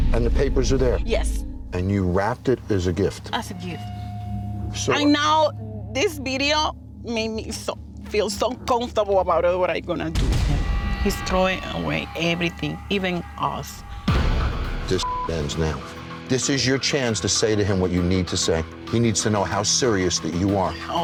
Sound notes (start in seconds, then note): 14.2 dramatic music; 15.0 beep